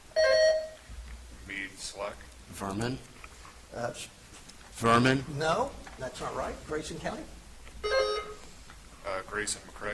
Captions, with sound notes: (buzzer chimes) - Meade, Slack. - Vermin. Vermin. - No, that's not right. Grayson County. (buzzer chimes) - Grayson, McCray.